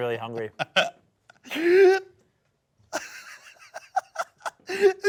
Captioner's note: laughs